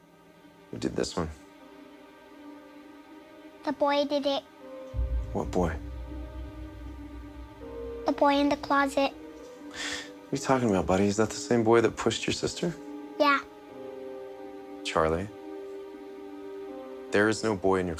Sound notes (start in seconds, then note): none